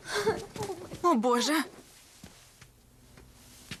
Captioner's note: chuckles